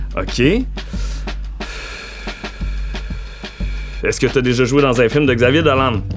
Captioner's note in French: soupir